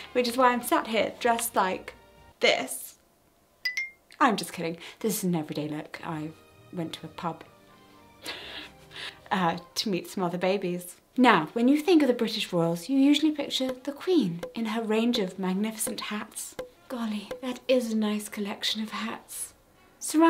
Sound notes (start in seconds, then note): 3.6 quick ding